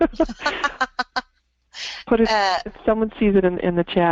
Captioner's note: laughs